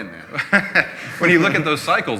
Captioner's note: laughing